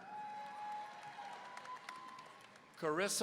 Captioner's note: audience cheering